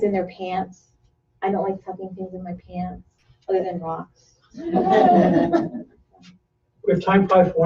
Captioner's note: laughter